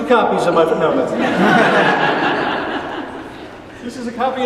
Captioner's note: laughing